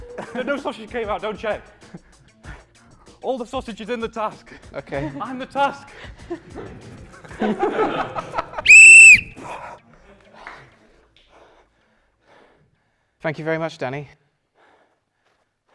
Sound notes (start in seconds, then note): 6.0 laughter; 8.6 blows whistle